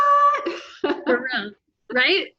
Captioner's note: chuckles